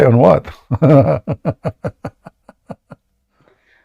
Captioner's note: Ketawa